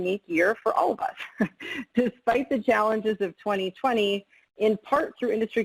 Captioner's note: chuckles